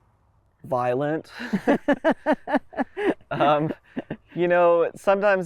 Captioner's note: laugh